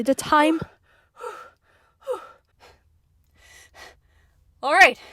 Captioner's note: heavy breathing